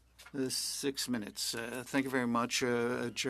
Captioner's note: speaking French